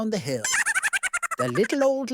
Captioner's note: high-pitched laugh